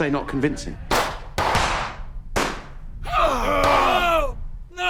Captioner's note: guns banging